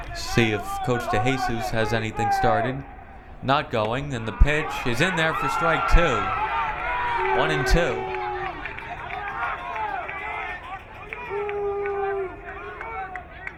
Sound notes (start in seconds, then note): 8.2 crowd cheering